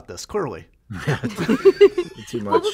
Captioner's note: laughter